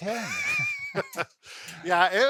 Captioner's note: laughs